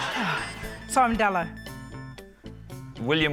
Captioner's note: laughter; sighs